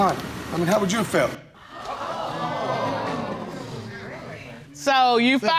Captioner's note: audience gasps and chatters